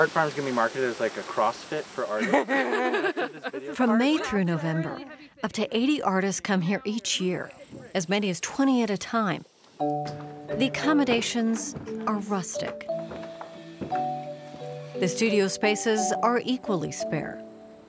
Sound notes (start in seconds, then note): 3.7 upbeat music; 9.5 wheel creaking